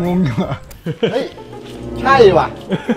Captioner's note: chuckles; Pat; laughs; Pat